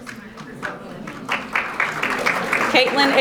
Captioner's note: audience applauding